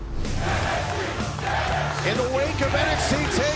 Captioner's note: fans chanting